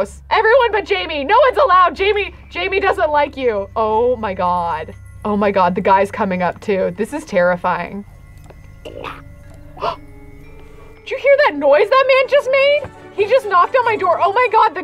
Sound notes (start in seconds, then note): 8.7 gasps